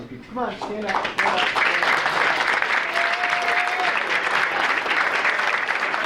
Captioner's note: audience applauding